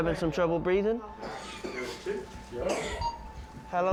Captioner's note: coughing